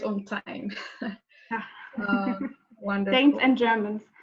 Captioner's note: laughs; chuckles